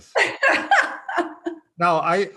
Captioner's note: laughs